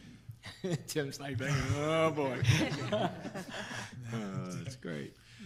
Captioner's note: laughs